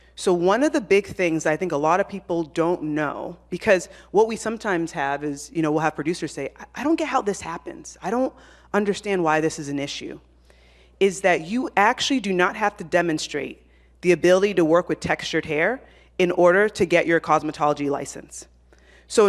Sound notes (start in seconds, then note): none